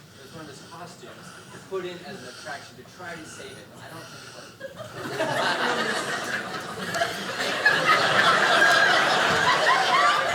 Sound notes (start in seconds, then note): 4.7 audience laughing